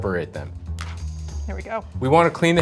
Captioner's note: lobster snaps